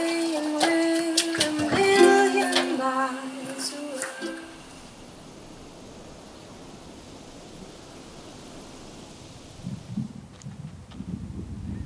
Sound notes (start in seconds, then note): 0.0 ukulele strumming; 6.1 birds chirping